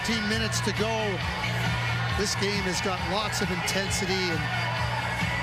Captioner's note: sports commentary